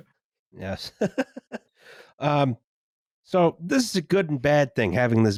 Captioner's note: laughs